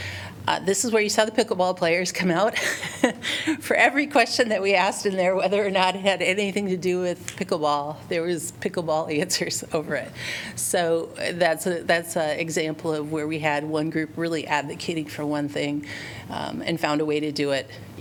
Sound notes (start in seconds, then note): 2.5 laughter